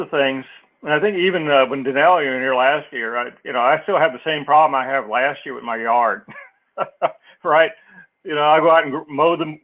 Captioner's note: laugh